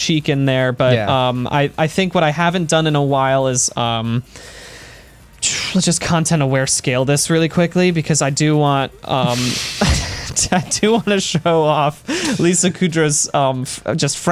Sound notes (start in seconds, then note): 9.2 laughter